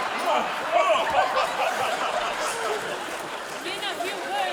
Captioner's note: audience laughing